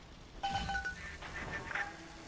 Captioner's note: phone beeps